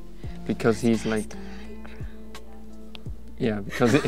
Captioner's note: whispering